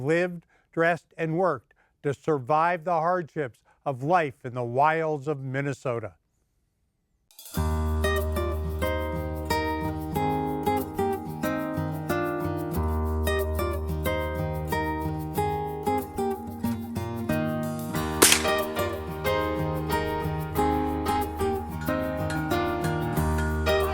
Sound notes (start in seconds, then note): 7.7 acoustic guitar plays in bright rhythm; 18.1 loud crack!